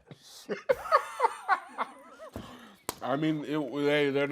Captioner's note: laughing